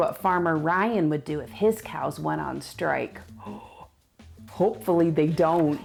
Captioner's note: gasps